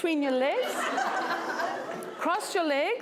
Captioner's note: laughter